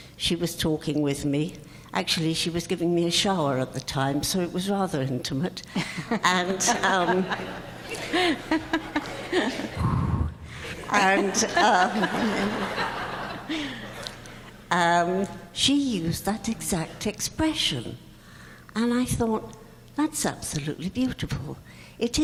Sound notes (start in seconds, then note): 5.8 all laughing